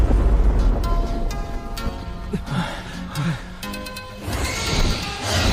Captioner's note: none